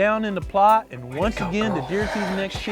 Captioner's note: whispering